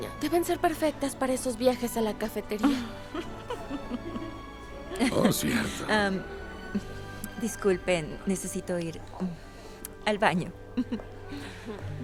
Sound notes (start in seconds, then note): 2.6 Esperanza ríe; 2.6 Faith ríe